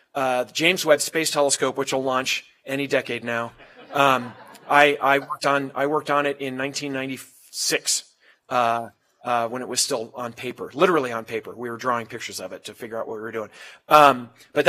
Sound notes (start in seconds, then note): 3.6 laugh